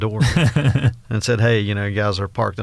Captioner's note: laughs